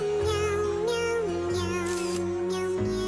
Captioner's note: camera shutter clicks